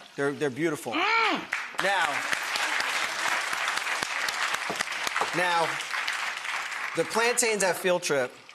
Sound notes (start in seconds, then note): 1.4 audience clapping